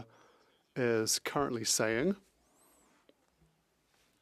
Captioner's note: speaking French